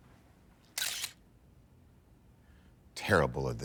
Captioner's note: camera clicks